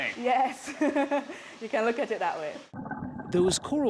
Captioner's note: laughter